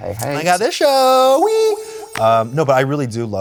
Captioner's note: echoes